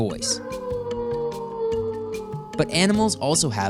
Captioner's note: wolf howls